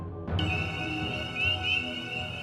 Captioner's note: peepers peeping